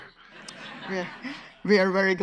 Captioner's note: audience laughs